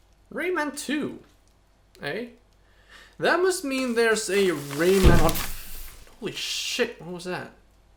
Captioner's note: thunk